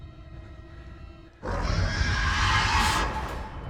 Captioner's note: alien roars